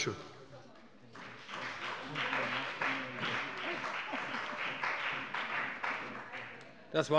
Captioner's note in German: Beifall bei dem BÜNDNIS 90/DIE GRÜNEN und der CDU